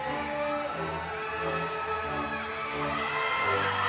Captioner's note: crowd cheering